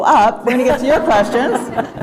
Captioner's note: laughter